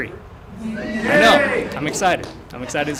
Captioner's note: cheering